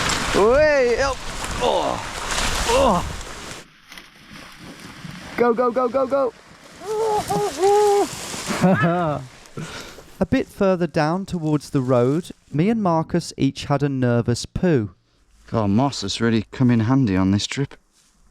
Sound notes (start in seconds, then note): 0.3 grunting; 6.8 exclaiming